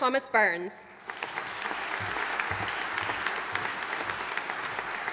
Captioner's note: audience applauding